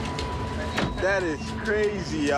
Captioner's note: car door closes